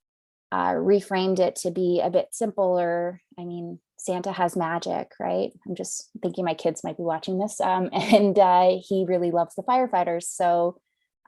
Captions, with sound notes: reframed it to be a bit simple or I mean, Santa has magic, right? I'm just thinking my kids might be watching this (chuckles) and he really loves the firefighters so,